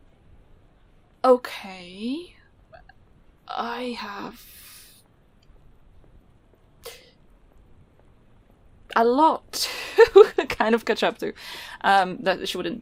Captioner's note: laughs